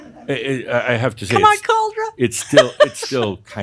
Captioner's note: some chuckles; she giggles